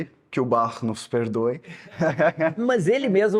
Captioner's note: laughs